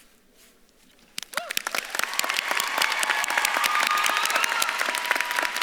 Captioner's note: audience claps and cheers